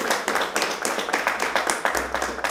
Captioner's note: applause